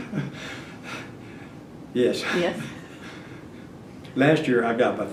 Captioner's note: laughs